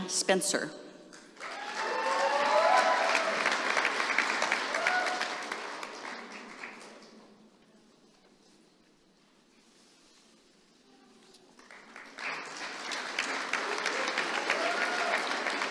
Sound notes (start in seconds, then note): 5.2 applause